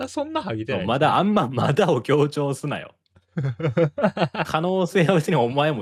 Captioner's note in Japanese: 笑い